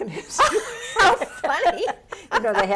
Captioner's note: laughs